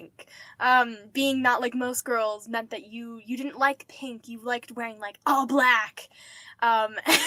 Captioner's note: laughing